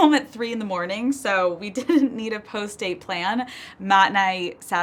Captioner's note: chuckles